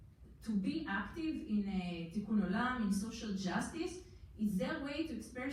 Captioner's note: foreign language